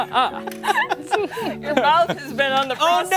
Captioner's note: laughter